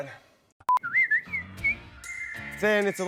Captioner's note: whistling